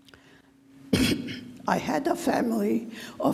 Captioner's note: clears throat